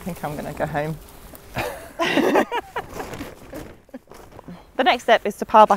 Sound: both laugh

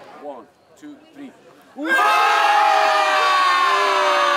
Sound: crowd; all cheering

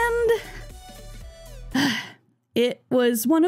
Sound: sigh

